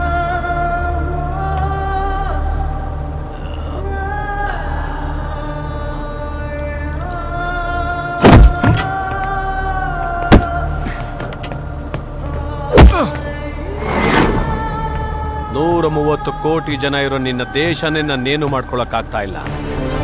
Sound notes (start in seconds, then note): 8.2 kicks